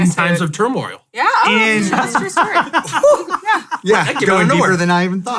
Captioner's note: laughs